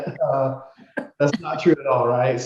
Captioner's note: laughing